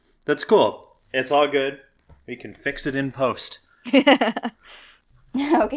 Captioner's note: laughs